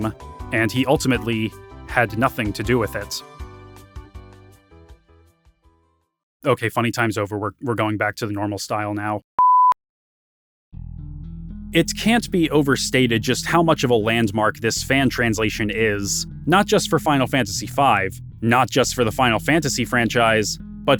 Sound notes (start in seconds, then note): 9.4 beeps